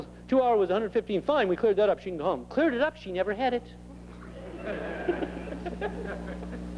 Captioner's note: laughter